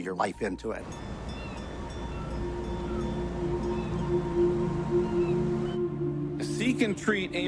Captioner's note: soft music; bell ringing